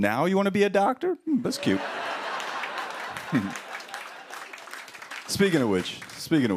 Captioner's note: laughter